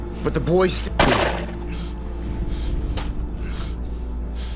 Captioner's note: gunfire popping